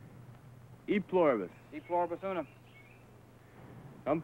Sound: speaking in foreign language

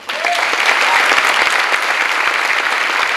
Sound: clapping

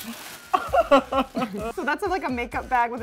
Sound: laughs

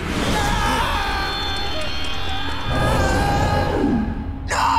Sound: screaming

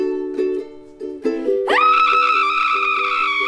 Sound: scream

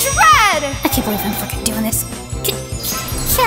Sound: mutters

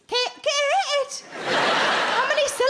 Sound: crowd laugh

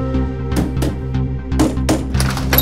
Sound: knocking on door

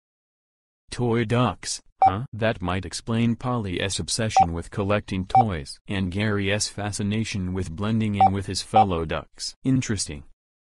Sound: whispering

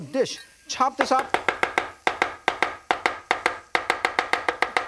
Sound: sound of chopping

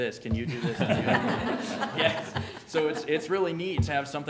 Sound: laughter

